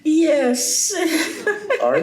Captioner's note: laughs